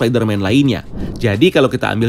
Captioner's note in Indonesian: suara transisi